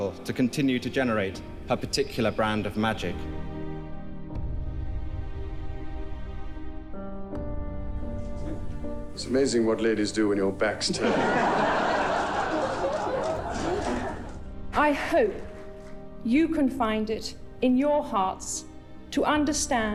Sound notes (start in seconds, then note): 4.0 gentle music; 10.8 crowd laughing